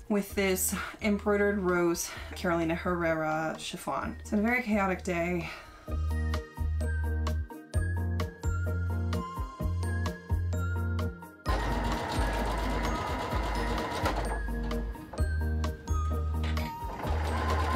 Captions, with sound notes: with this embroidered rose, Carolina Herrera chiffon. It's a very chaotic day. (upbeat music) (sewing machine running)